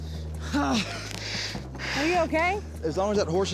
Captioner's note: grunts